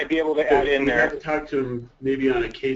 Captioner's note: voiceover